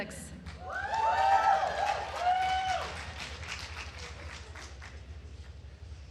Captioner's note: attendees cheering and applauding